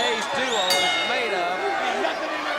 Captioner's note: bell rings; audience cheers